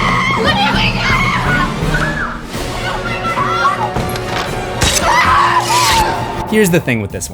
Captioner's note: screams